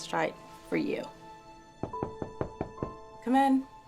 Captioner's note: knocking on door